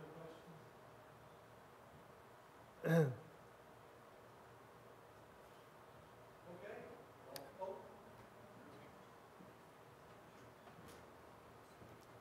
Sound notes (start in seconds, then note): 0.7 audience members speaking indistinctly